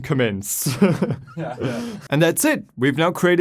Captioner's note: laughing